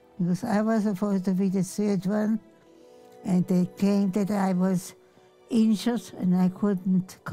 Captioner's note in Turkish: none